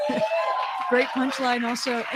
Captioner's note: cheers & applause